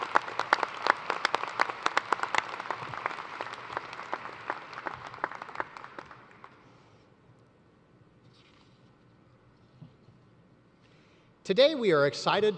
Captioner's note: applause